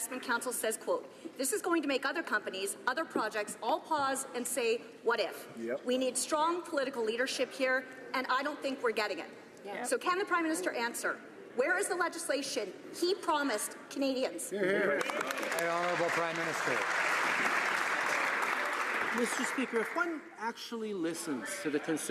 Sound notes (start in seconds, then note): 18.3 some Applause